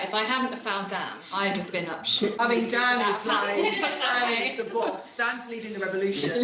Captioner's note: laughing